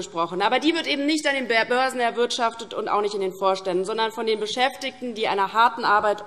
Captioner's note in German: none